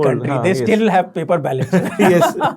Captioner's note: laughing